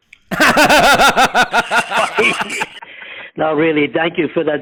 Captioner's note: laughing